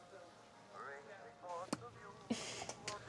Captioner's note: kissing sound